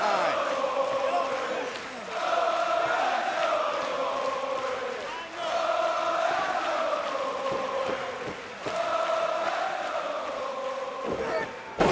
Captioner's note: crowd chatter